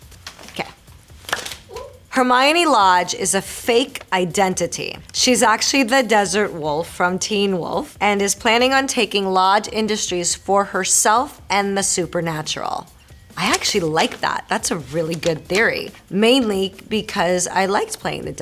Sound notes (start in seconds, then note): 2.2 Marisol reading fan letter aloud